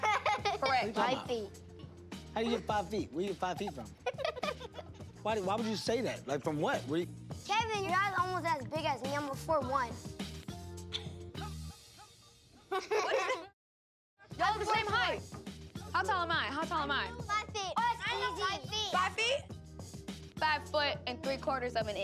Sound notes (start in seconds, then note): 3.2 giggling; 11.4 laughing